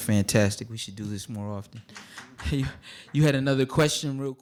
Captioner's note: scattered applause